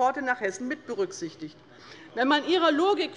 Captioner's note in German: none